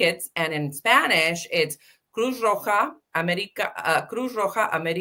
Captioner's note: speaking Spanish